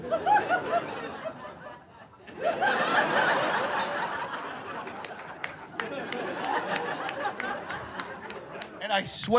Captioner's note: laughter